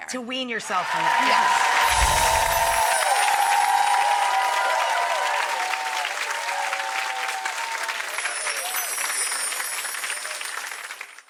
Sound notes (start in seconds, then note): 1.2 audience applauds; 8.0 bell tinkles